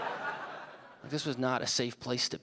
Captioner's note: audience laughing